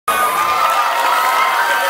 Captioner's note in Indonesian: Suara kerumunan